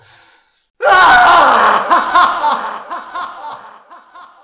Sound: scream

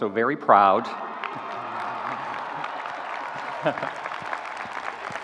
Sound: audience cheering

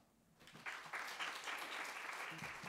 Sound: applause

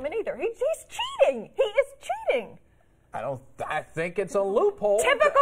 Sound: laughter

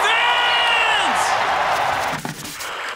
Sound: cheering

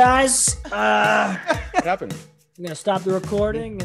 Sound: laugh

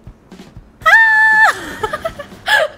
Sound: scream

